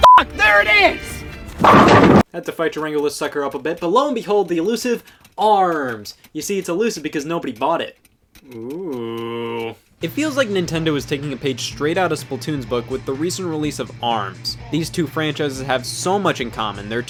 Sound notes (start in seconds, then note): 0.0 beep; 1.7 loud rumbling